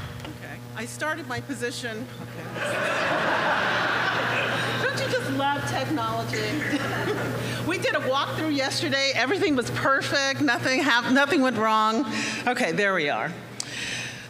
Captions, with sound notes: OK, I started my position. [LAUGHTER] Don't you just love technology? We did a walk through yesterday. Everything was perfect, nothing went wrong. OK, there we are.